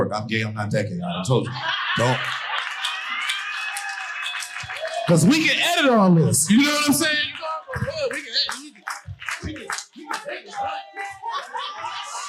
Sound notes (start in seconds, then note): 1.6 audience hollering and applauding; 6.4 audience applauding